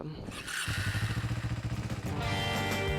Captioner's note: scooter engine growling; upbeat music